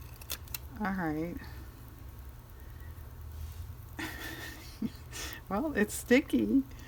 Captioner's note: laughs